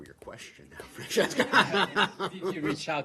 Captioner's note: laughter